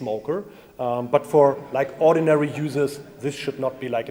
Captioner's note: audience laughs